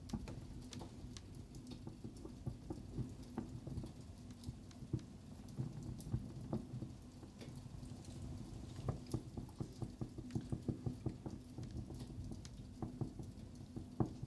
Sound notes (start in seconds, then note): 3.1 burning sound